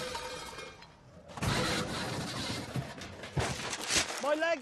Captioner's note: clattering